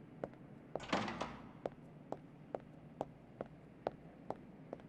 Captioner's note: door closing softly